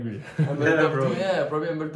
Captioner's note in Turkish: gülüşmeler